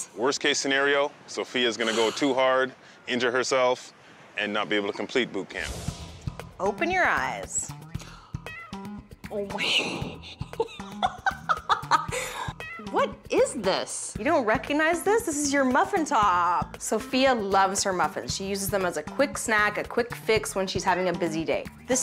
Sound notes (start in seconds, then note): 8.6 gasps; 9.6 laughing